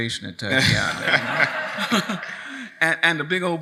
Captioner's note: audience laughs